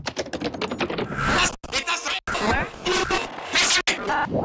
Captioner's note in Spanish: Voces distorsionadas